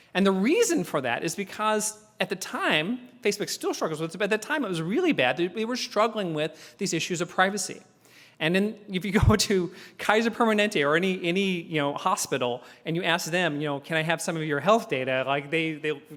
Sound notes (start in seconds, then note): 9.4 laugh